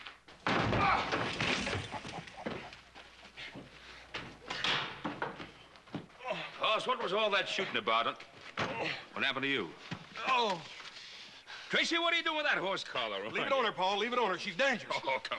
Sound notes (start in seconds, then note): 6.1 groaning